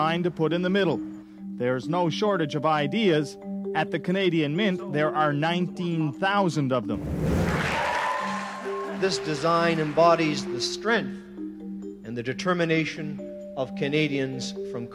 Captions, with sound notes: is what design to put in the middle. There's no shortage of ideas-- at the Canadian Mint, there are 19,000 of them. [applause] This design embodies the strength and the determination